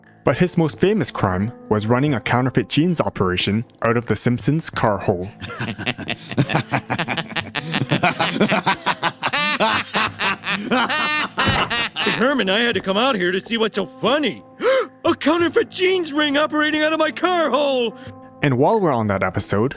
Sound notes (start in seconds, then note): 5.4 laughter; 14.6 gasp